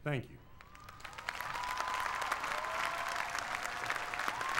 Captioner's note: applause